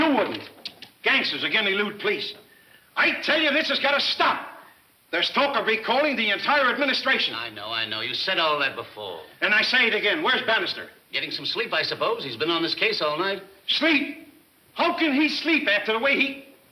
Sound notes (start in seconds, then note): none